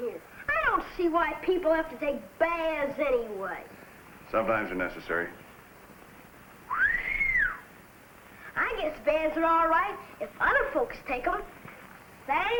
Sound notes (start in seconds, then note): 6.7 boy whistles